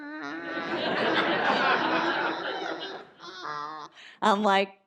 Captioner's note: audience laughs